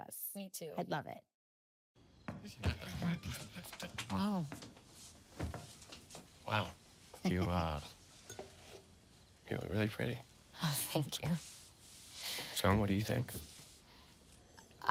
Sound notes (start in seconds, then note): 2.1 people chattering